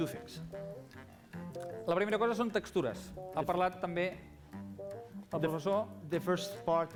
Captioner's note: non-english speech